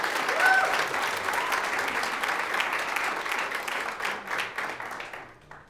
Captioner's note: audience cheers; audience applauds